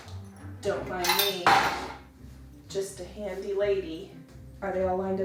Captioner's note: equipment thuds